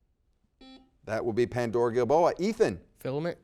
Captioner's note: buzzer dings